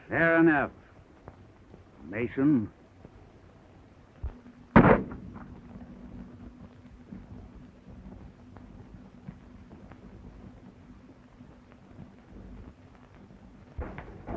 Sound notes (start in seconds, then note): 4.7 gunshot